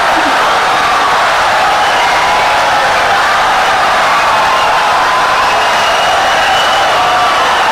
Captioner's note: wild applause and cheering for 17 seconds